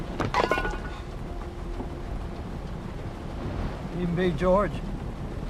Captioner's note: metal cup clangs